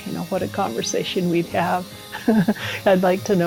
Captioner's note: laughs